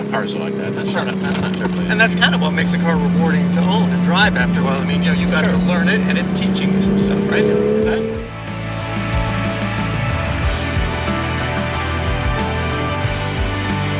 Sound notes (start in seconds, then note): 5.7 revving of car drowns out conversation; 11.0 exciting music